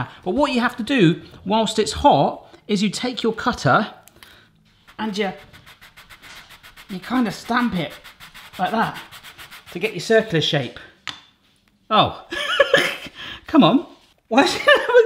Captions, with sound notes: But what you have to do whilst it's hot is you take your cutter and you, you kind of stamp it like that to get your circular shape. Oh, (laughs) come on, what.